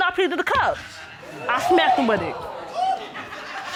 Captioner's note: audience laughing